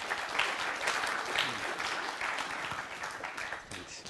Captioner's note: applause